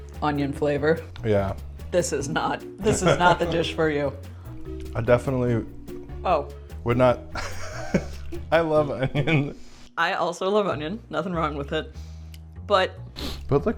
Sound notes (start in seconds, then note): 2.8 laughs; 7.3 laughs